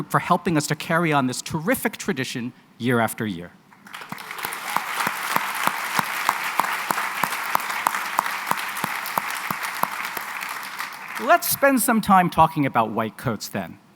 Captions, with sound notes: for helping us to carry on this terrific tradition year after year. [APPLAUSE] Let's spend some time talking about white coats then.